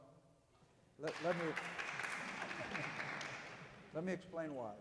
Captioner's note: audience applauding